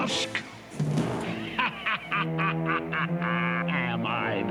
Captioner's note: laughing